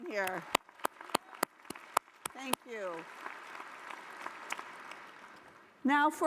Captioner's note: applause